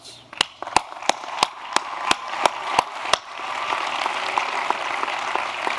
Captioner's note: applause